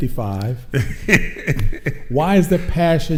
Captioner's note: laughing